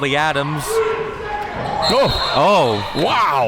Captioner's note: whistle blows